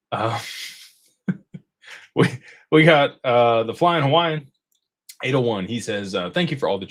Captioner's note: laughter